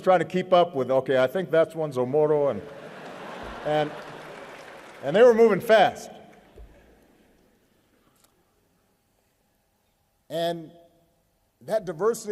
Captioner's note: laughter